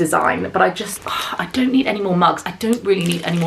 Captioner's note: sighs